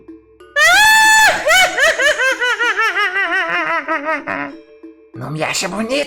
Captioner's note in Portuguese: Risada macabra intensa